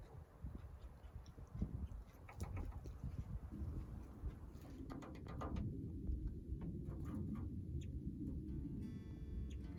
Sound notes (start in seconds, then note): 5.1 bird pecking on metal